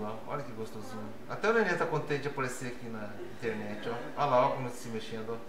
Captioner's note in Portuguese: risos